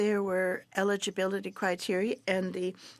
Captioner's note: speaking French